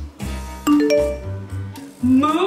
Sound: electronic chiming

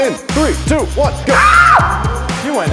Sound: screams like a girl

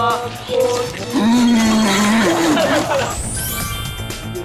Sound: spit

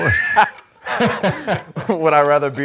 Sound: man laughing; buzzer blaring

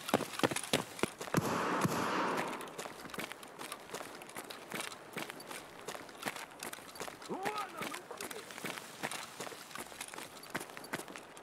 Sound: Russian scav noises

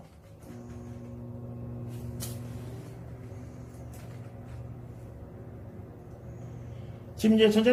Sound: microwave oven running

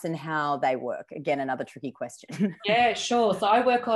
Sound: laughs

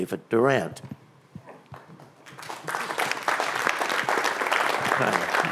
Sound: applause

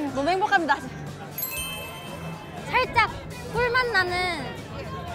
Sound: bell chiming

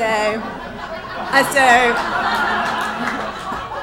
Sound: audience laughs

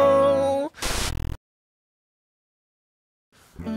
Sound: static sound

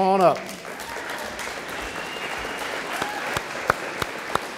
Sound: audience applauding

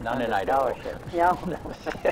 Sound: both laugh

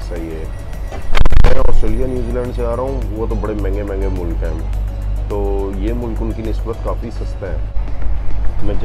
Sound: audio explodes once again

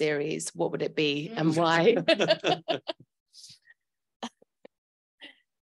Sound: panellists laugh

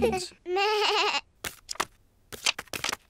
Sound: bleats

